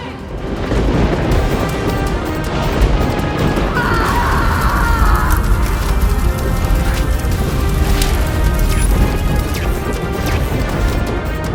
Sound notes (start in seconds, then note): 0.3 thundering; 3.7 screams